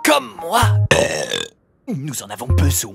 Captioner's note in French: burp